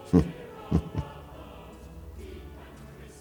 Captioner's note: chuckles